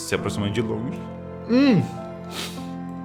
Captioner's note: sobbing